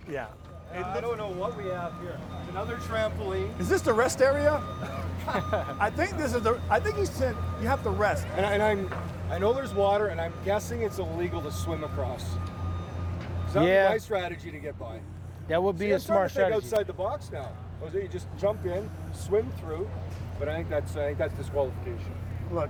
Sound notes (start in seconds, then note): 4.7 laughter